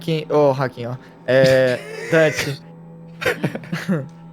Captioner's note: laughing